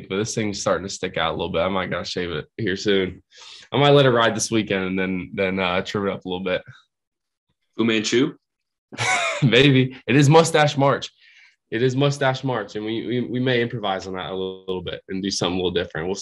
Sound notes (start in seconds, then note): 8.9 laughing